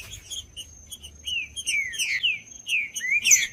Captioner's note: trinca ferro cantando